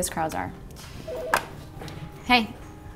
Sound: phone rings

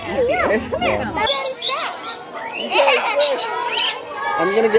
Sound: birds squawking

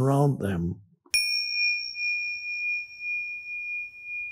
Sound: bell chimes

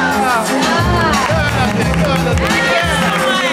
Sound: applause

